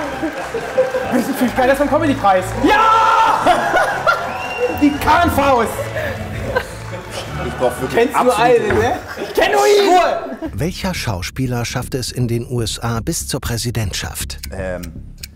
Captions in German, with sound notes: Ich fühl mich geiler als beim Comedypreis! Jaaaa! (Gelächter) Ich brauch wirklich absolute Ruhe. Ich kenn nur ihn! - Ruhe! Ähm ...